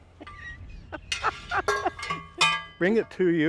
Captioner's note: laughing